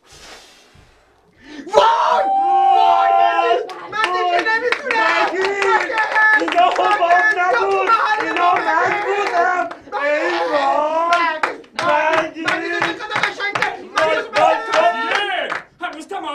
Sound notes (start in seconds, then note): 1.6 fake celebrating sound